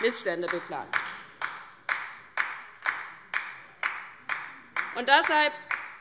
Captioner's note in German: Beifall DIE LINKE